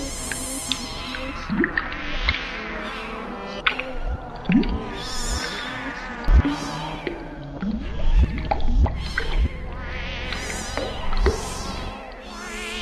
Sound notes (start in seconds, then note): 6.0 speaking in foreign language